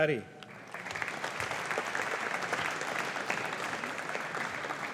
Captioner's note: audience applauding